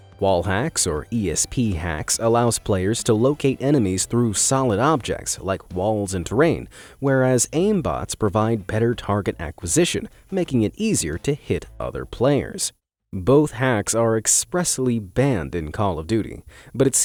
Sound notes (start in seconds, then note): none